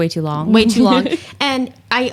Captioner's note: laughs